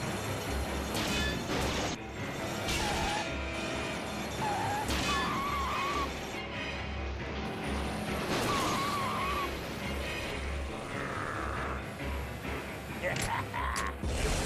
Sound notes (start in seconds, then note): 4.4 tires screeching; 13.0 snickering